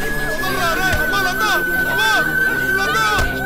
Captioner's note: scuffle